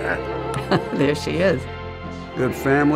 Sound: laughing; chuckling

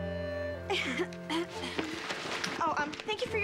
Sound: clears toahrt

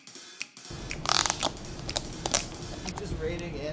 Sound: plastic crinkles

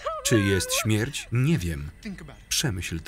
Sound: sobbing

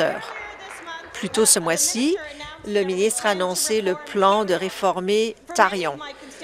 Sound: applause

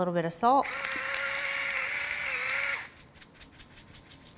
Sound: machine whirrs

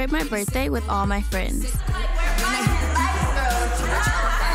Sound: ladies chattering; ladies laughing

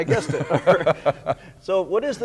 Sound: laughing

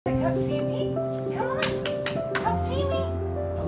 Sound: claps

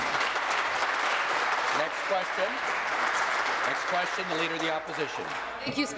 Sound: applause

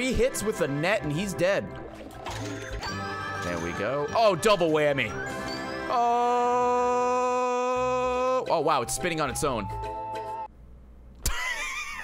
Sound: laughs

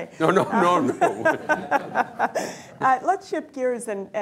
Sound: laughter

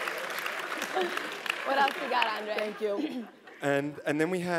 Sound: laugh

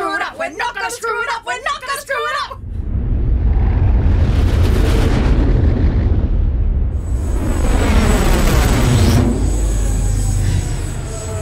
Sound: The roar of the Starship engine as it flies off to planet PAN-T5

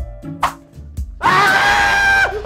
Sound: whooshing; yelling

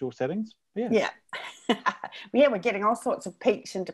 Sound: laughs

